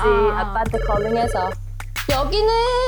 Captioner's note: phone ringing